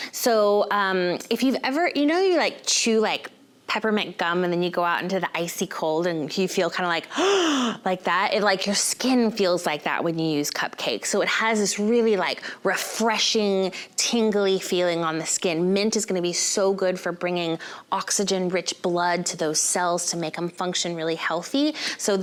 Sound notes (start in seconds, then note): 7.1 quick gasp